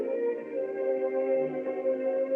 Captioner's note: none